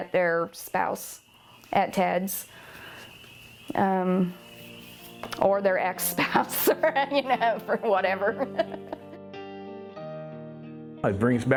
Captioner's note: laughs